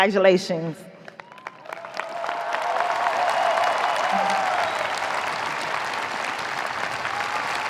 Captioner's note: audience applauding; audience cheering